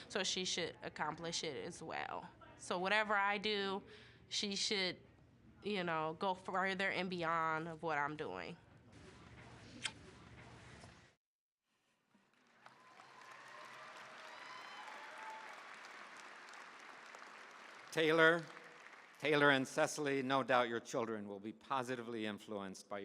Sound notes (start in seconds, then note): 9.7 kissing; 12.3 cheering, applause